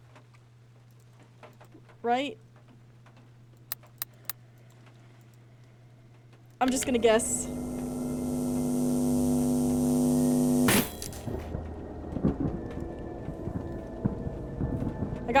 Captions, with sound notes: Right? [More Breathing] I'm just gonna guess. [Loud Buzzing] [Glass Shatters] [Thunder]